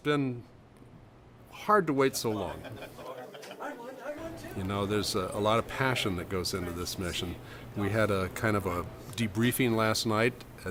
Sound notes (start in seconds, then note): 3.8 people chatting and laughing